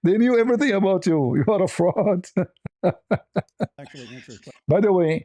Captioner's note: ketawa